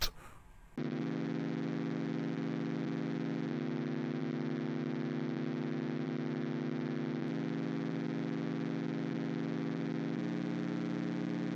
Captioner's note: Static